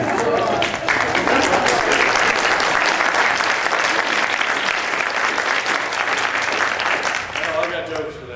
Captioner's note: laughter; applause